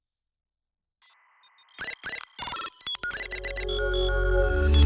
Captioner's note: electronic beeping